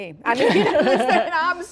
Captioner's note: laughter